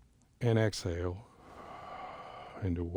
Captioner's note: exhales